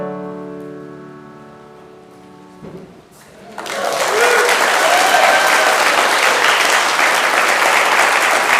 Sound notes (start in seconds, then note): 3.2 congregation applauding and whooping